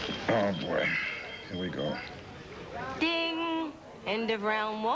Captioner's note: pager beeps